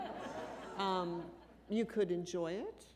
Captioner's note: laughter